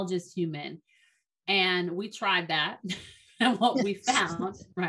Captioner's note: chuckles